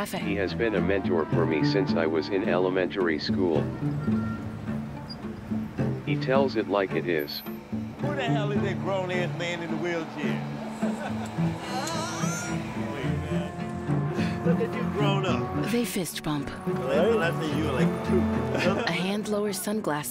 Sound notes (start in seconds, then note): 11.6 excited vocalizations; 18.0 laughing